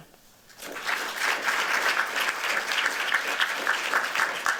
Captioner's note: applause